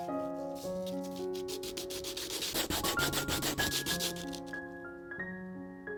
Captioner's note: raspy sound of sanding